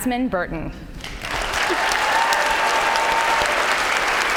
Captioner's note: applause